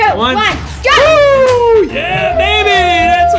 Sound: both cheering

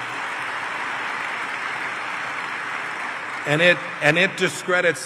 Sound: applause

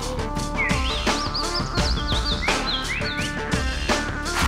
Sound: chirping

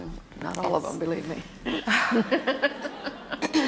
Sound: laughs

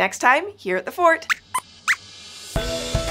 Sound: squeaks squeaks

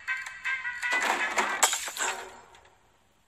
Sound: crashing

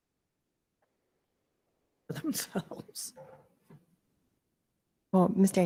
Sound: chuckles

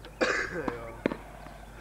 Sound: coughs

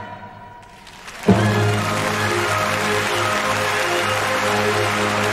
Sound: applause

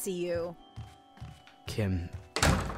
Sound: door closes

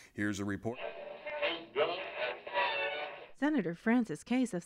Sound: radio changing stations

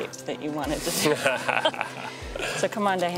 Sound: both laugh

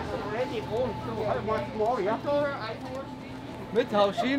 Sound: people talking

